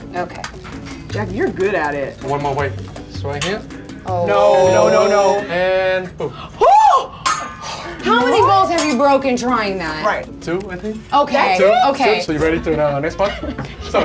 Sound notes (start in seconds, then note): 6.9 gasping